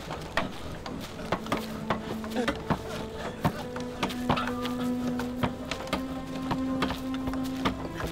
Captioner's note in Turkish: Çekiç sesleri